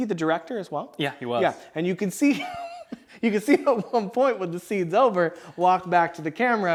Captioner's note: laugh